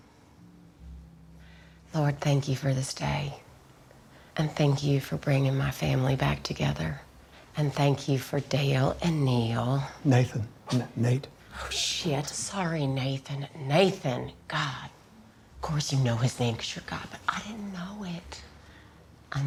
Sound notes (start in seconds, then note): 2.3 sighs; 10.9 Dale laughs